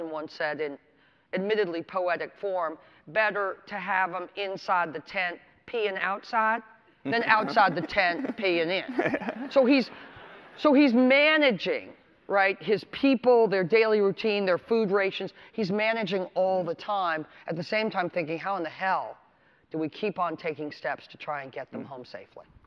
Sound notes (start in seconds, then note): 8.7 audience laughter